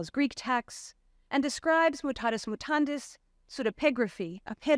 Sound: speaks foreign language

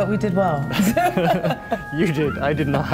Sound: both laughing

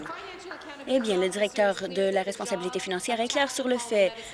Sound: applause

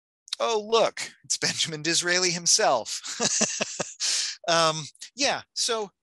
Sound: laughing

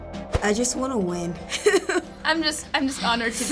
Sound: chuckles

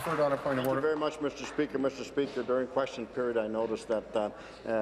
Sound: applause

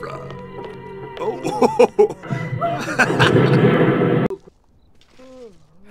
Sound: laughes at tv show

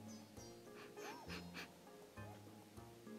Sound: sniffs

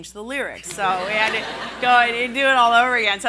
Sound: laughing

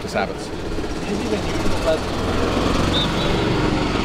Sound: engine revving

